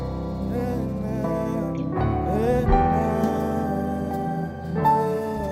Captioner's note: vocalizing